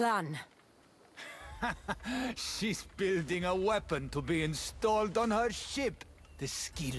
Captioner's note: laughs